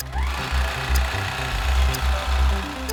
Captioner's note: machine whirs; synthesized music